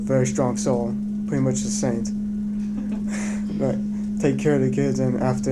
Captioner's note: laughing